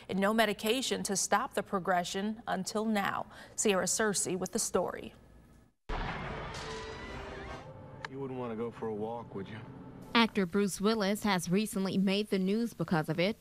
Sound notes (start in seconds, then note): 5.8 bang from a movie clip